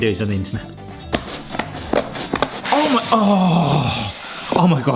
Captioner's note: scissors crunching